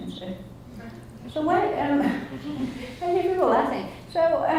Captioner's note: laughs